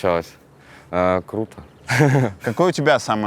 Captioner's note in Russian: смеётся